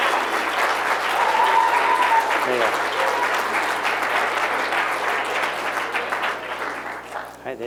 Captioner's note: applause